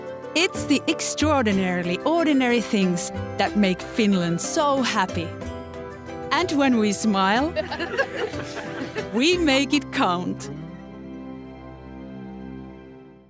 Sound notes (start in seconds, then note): 7.6 laughs; 11.1 music stops